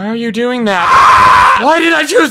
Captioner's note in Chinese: 尖叫